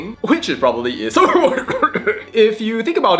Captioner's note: cough